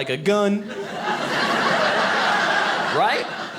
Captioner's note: audience laughing